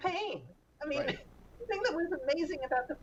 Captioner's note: Mara laughs